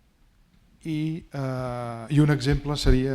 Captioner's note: speaking spanish